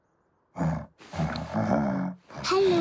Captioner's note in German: Leises Brummen